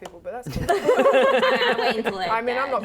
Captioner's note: laughing